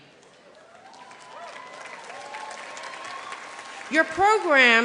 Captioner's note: applause